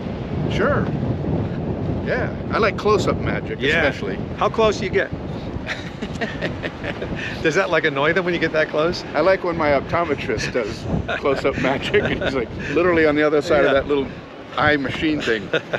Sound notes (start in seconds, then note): 5.6 both laugh; 15.0 laughs